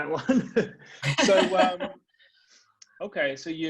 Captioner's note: laughing